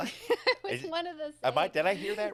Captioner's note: laughs